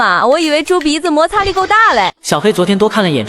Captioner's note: sarcastically